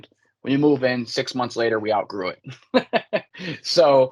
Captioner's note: laughs